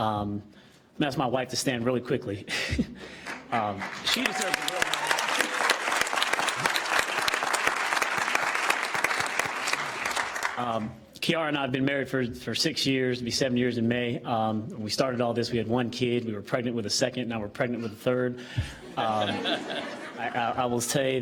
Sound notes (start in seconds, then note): 7.0 applause